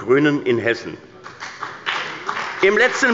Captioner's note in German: Beifall bei der CDU und dem BÜNDNIS 90/DIE GRÜNEN